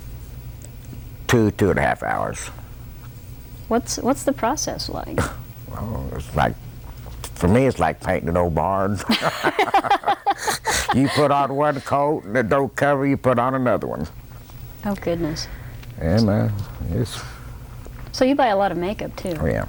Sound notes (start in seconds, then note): 9.0 laughter